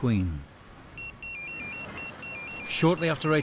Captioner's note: phone chimes